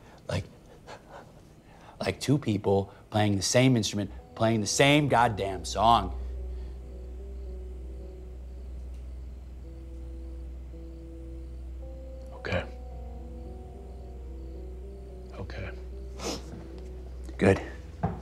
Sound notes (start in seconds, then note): 6.4 crickets chirping; 6.4 tense music; 16.1 Tyler sniffs